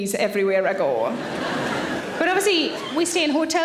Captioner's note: audience laughing